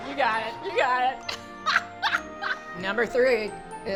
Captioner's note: laughing